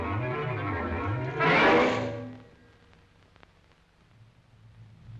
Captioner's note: lion growls